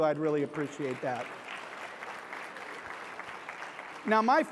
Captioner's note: audience applause